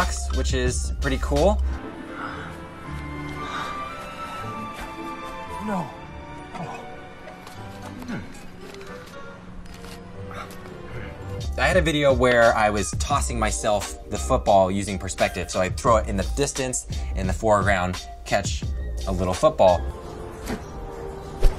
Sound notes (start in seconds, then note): 1.9 energetic music; 3.4 panting